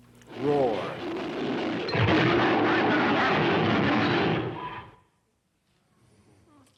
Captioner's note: roar sound effects